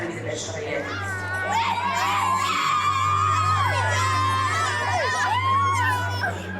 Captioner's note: cheers